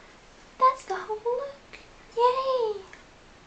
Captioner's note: fake cute voice